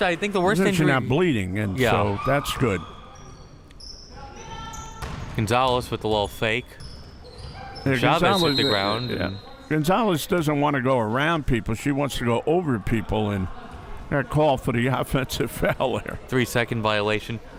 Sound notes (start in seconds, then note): 8.2 whistle chirping